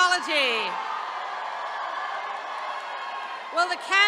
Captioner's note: attendees cheering